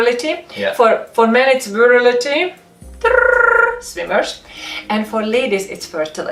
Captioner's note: twiddling tongue